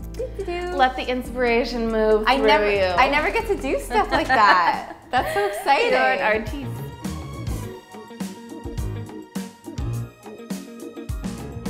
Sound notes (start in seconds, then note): 3.6 laughs